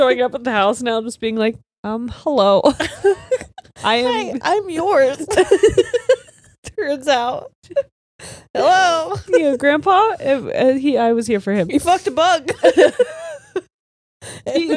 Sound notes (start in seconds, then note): 2.7 all laughing; 12.4 all laughing